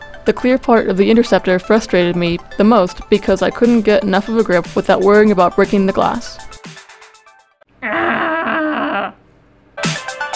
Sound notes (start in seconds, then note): 7.8 frustrated noise